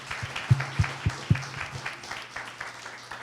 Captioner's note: applause